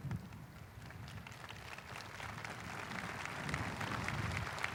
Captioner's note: audience applauding